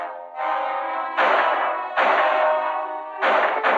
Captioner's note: gunshots